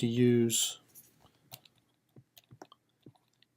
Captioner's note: typing